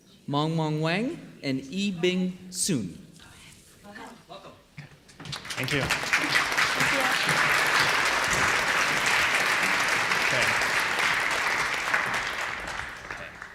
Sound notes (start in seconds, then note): 5.2 applause